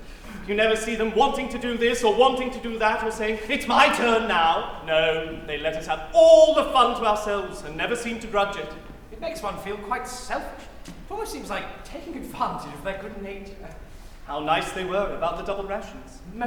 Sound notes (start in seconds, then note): none